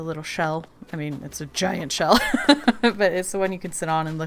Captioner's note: laughs